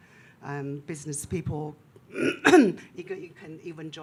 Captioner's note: clears throat